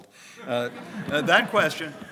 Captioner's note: audience laughs